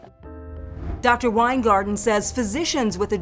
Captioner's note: soft piano music; graphics whooshing